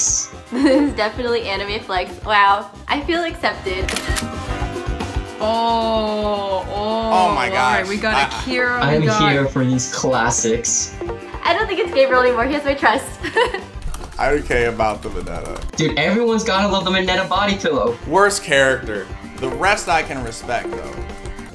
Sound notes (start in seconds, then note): 3.8 camera clicks; 13.2 laughs